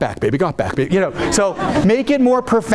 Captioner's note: audience laughing